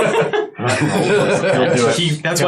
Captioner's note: laughs